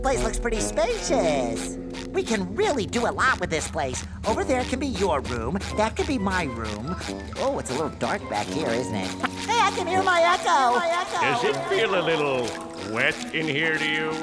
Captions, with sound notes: Hey, this place looks pretty spacious. We can really do a lot with this place. Over there can be your room. That could be my room. Oh, it's a little dark back here, isn't it? Hey, I can hear my echo. [echoing] Does it feel a little wet in here to you?